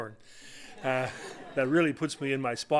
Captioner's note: audience laughing